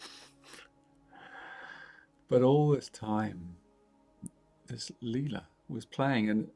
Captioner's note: chuckles